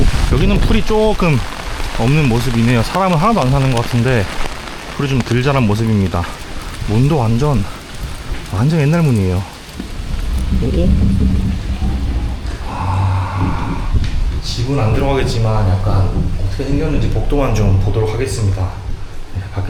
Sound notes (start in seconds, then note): 9.8 the door opens here